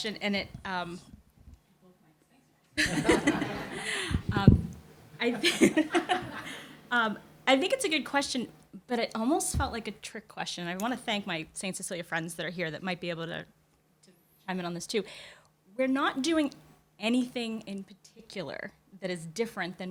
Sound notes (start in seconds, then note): 2.8 laughter